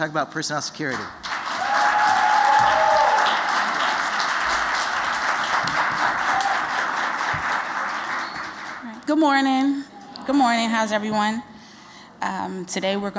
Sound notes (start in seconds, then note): 6.6 �cheers and applause�